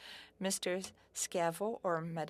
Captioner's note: speaking French